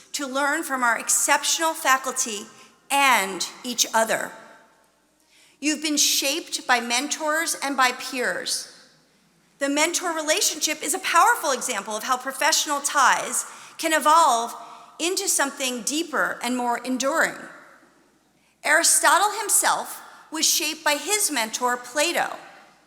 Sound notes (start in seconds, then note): none